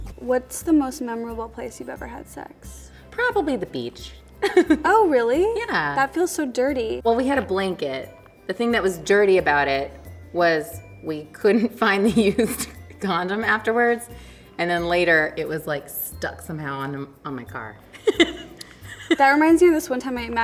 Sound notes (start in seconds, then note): 4.4 laughs; 17.9 laughs